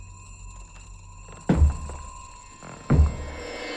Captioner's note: thumping